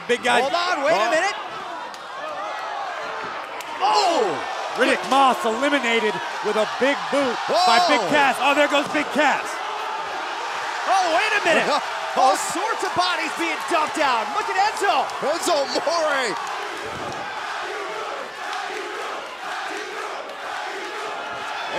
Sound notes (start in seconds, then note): 10.4 cheers & applause; 16.4 fans chanting